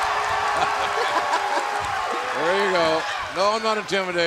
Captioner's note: laughter